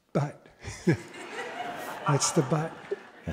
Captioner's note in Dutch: Gelach